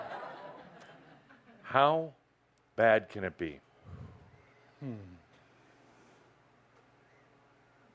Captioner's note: laughter